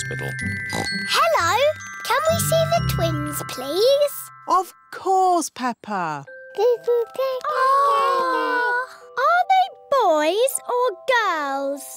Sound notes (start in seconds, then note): 0.7 oinks; 7.6 babies gurgle